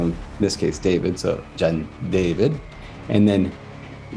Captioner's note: speaks in Sangheili